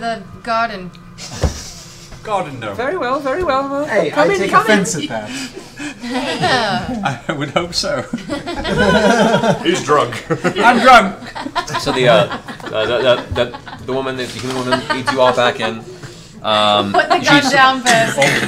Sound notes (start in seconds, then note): 5.5 laughter